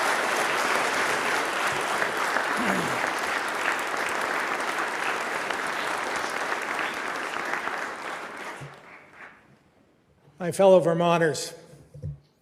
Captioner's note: applause